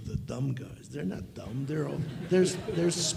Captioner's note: audience chuckles